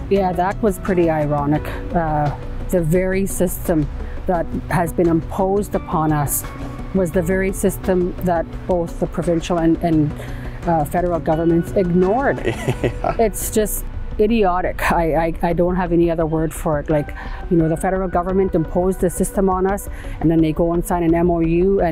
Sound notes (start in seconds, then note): 12.4 laughing